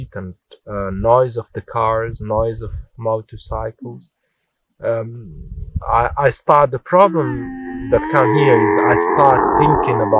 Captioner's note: camel complaining in the background